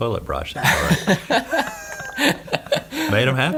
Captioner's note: all laugh